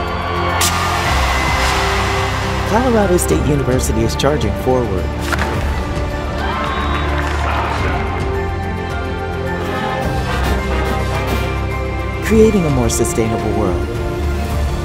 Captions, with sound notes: (crowd cheers) Colorado State University is charging forward. (ball snap) (crowd cheers) (marching music) Creating a more sustainable world.